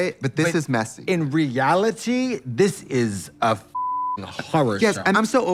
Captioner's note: beep